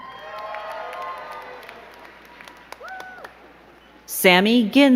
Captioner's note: crowd cheering and clapping